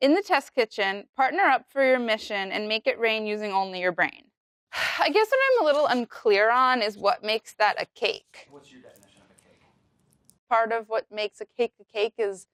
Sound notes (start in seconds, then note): 4.8 sighs